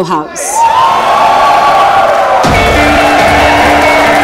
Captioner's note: All cheering clapping